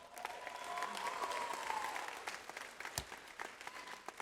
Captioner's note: audience applauds